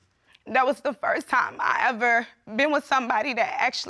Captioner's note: voice breaks